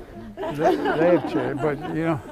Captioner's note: laughter